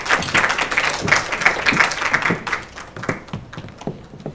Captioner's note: applause